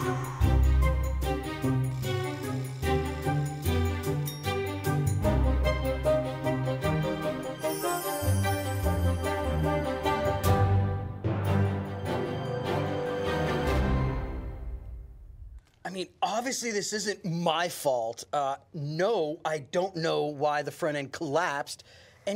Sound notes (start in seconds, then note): 0.0 blowing; 0.1 upbeat music continues; 4.7 bell ringing; 4.7 upbeat music continues; 13.0 upbeat music continues